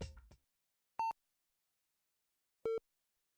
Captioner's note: beeping